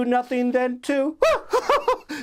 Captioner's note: laughs